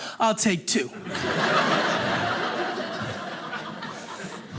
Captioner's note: audience laughing